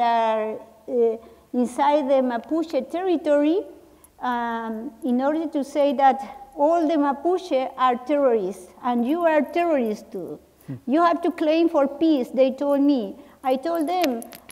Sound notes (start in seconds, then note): none